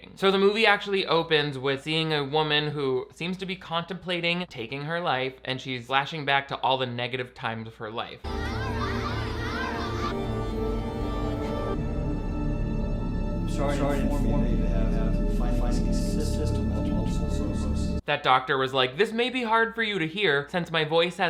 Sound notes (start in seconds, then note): 8.2 children chattering; 10.2 suspenseful music